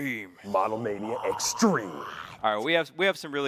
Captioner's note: grunting